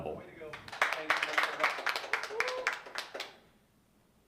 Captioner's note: applause